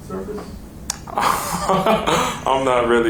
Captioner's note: laughs